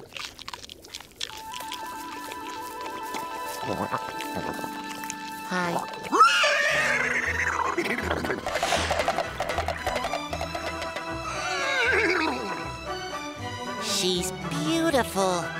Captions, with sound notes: Hi. [neighs] [thudding hoofbeat] [neighs] She's beautiful.